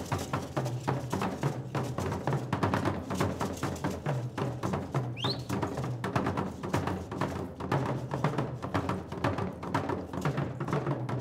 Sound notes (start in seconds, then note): 0.5 drums beating and beads rattling; 5.1 whistling; 6.5 drums beating and beads rattling